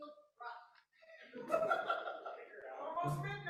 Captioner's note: laughter